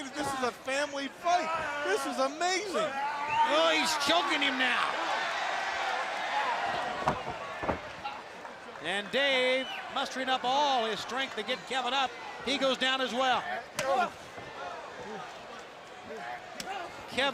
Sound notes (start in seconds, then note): 5.0 crowd cheering; 13.5 crowd chatter